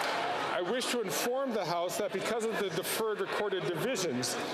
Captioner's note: cheering and Applause